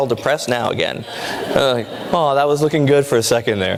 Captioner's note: audience laughing